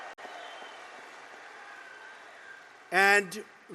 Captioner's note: applause